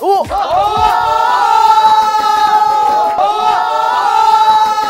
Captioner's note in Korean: 환호 폭발